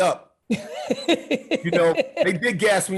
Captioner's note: Gary laughing